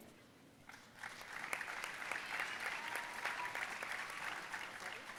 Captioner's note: audience applauding